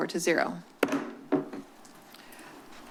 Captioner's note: gavel tap